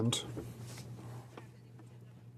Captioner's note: speaking French